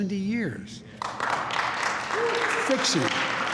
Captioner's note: applause